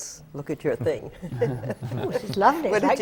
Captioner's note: laughter from the panel